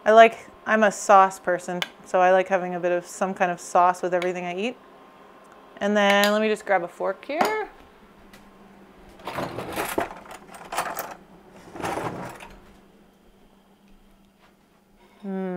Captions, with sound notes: I'm a sauce person. So, I like having a bit of, some kind of sauce with everything I eat. And then, let me just grab a fork here. (silverware clinking)